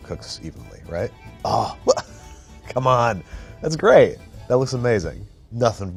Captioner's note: laughs